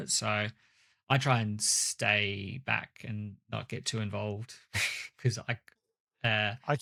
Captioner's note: laughs